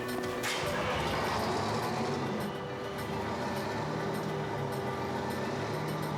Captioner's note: engine starts